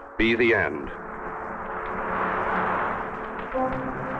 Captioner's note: fire crackling; tense orchestral music